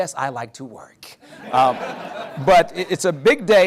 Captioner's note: laughter